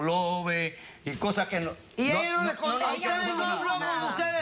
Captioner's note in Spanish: Hablan al unísono